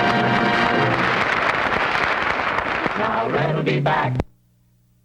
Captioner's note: applause